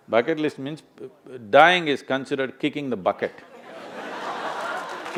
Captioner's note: laughter